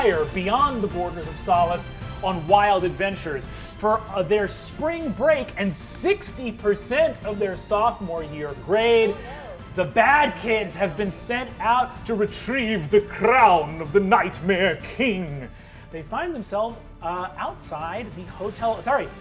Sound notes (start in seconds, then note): none